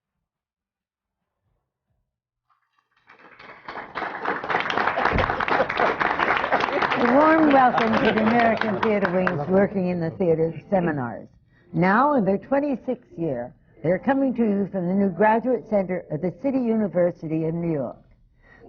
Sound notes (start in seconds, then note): 2.9 applause